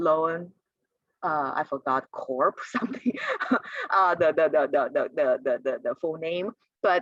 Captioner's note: laughter